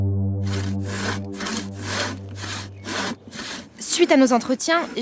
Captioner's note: saw sounds